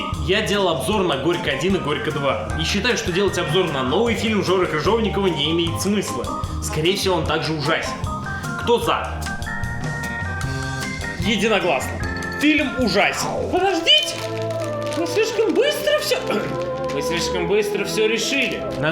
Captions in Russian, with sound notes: Я делал обзоры на "Горько!-1" и "Горько!-2", и считаю, что делать обзор на новый фильм Жоры Крыжовникова не имеет смысла. Скорее всего, он также ужасен. Кто "За"? Единогласно, фильм ужасен. *музыка становится драматичной, типичный зритель шуршит пакетиком* "Крыжовников": *фальцетом* Подождите! Вы слишком быстро вс... *прокашливается, теперь наглым басом* Вы слишком быстро всё решили.